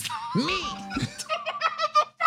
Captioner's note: laugh